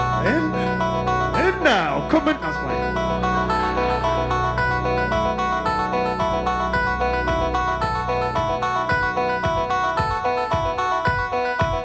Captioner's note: ha ha